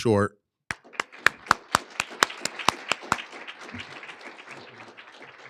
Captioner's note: applauding